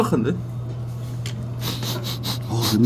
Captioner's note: sniff